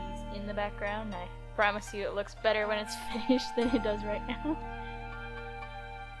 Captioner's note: laughing